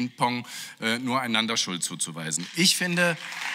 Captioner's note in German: Beifall